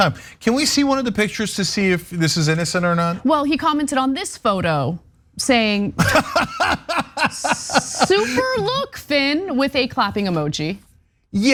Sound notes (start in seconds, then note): 6.0 laugh